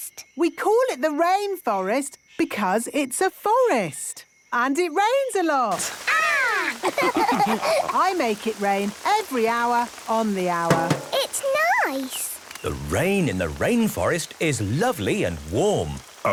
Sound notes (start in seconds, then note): 6.5 all laughing; 10.6 taps